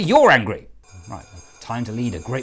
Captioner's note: Division Bell rings